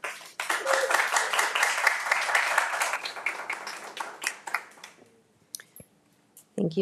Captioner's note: attendees applauding; attendee cheering